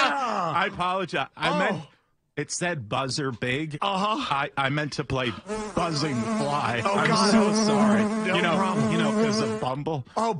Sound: buzzer

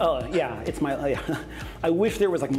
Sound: laughs

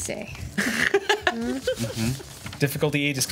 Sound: laughs

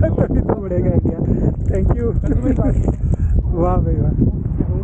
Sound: laughing

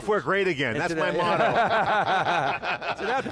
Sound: laughing

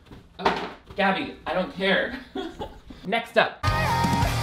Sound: laughs

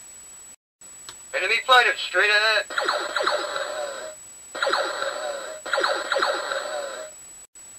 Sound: laser Fire Sounds

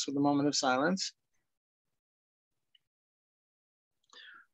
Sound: moment of silence

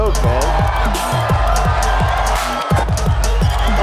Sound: cheering

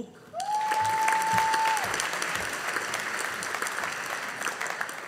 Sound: audience applauding

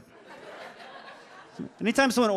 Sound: audience laughs

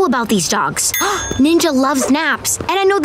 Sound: gasping

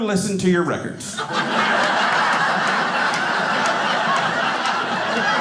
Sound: audience laughing

